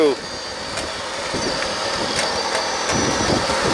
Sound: wind blowing; machine engines roaring

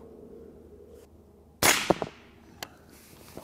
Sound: rifle fires

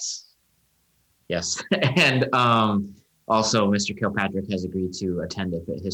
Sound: laughing

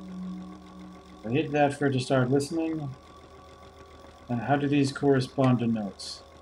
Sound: tone sounds; mechanical clicking

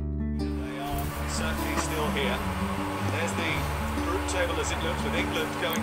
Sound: football commentary in background

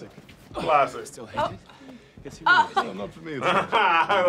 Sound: laughs; both laugh

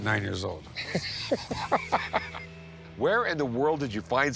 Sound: laughs

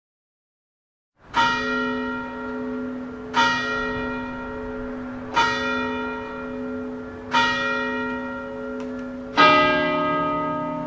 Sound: sound of church bell

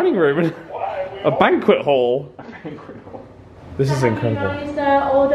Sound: laughs

